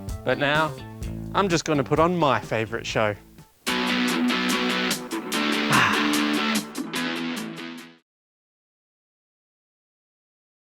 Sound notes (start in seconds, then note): 3.4 sighs